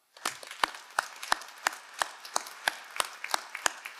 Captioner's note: all applauding